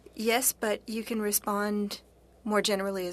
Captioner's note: speaking FRENCH